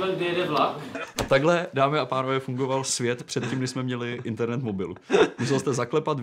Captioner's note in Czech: smích